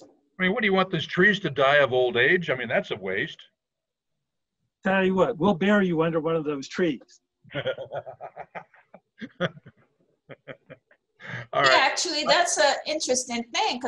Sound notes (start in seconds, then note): 7.5 laughs